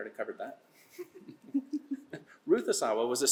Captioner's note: laughter